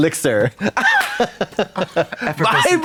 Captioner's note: Katya snickers